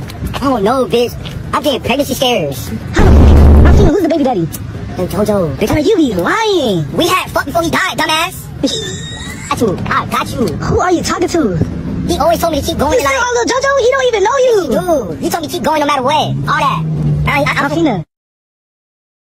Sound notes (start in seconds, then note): 8.5 laughing